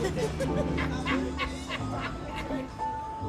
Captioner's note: laughing